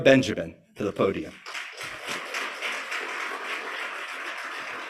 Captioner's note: applause